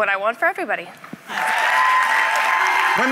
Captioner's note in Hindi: ताली